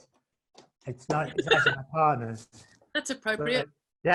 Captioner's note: laughing